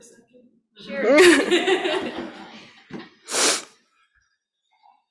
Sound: laughing

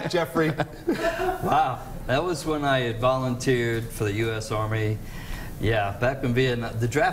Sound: laughter

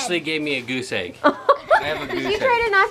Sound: laughing

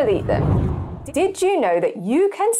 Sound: wind blows

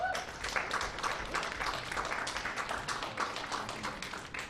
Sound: clapping

